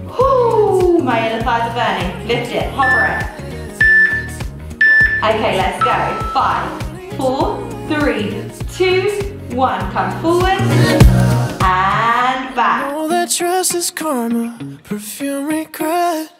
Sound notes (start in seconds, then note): 4.8 timer beeping